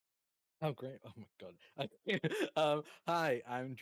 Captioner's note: chuckles